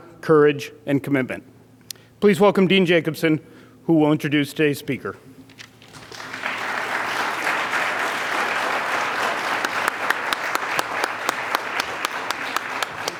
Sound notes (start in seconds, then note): 5.8 audience applauds